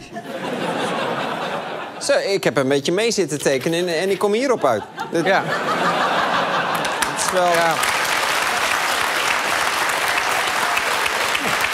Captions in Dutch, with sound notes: Zo, ik heb 'n beetje mee zitten tekenen en ik kom hierop uit. (gelach, applaus)